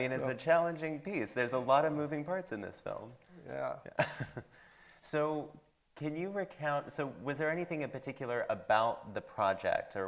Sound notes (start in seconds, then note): 3.6 chuckles